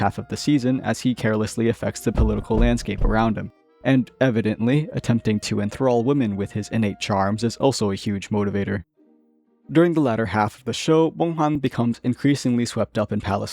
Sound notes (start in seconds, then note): 2.1 thumping